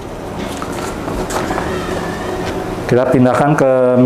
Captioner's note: teflon paper sound